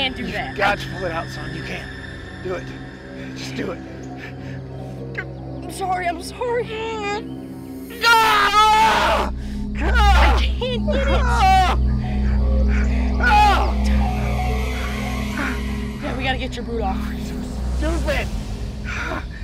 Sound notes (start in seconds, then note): 7.9 screaming in pain; 11.3 groaning in pain